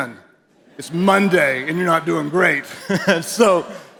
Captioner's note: chuckles